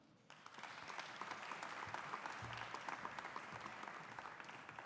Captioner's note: audience applauding